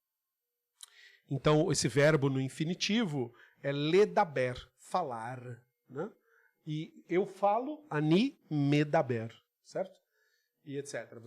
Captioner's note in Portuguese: Em hebraico